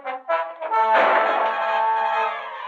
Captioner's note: gunshot